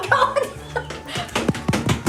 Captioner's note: laughs